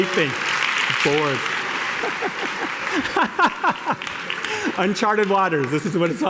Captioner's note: laughter